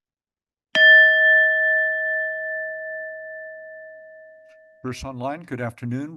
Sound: bell rings

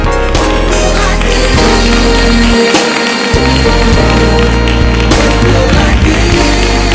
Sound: applause; gentle music

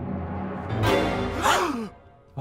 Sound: gasp

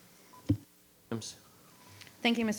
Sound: microphone beeping

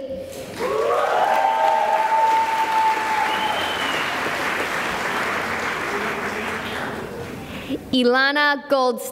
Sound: cheering and applause

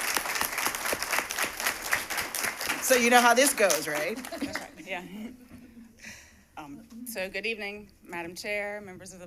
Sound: applause

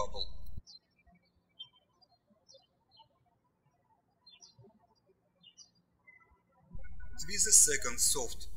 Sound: birds chirping

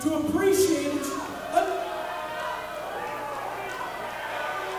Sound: audience jeering

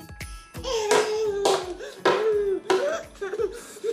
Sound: baby noises

